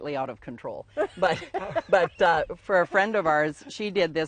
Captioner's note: laughing